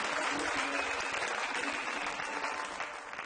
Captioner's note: audience applauds